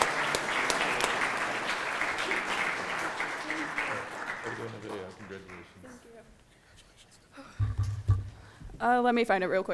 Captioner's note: applause